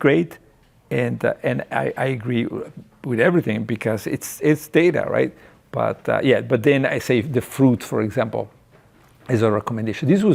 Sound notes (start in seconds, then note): none